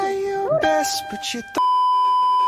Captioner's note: muffled yelling; beeeeeeeeeeeep